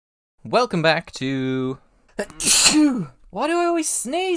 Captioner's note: sneeze